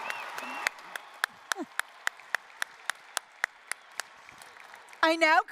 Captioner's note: applause